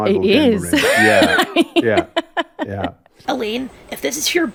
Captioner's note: chuckle